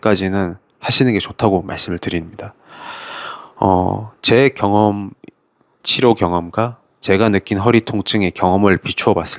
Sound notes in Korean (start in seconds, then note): 2.6 헉 소리; 2.7 한숨